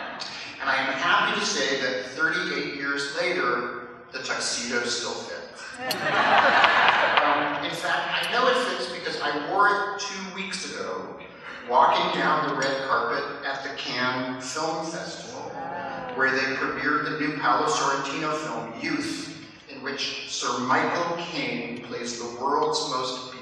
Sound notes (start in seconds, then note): 5.8 laughter